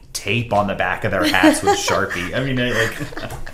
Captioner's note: laughs